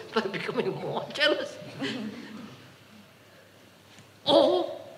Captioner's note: laughs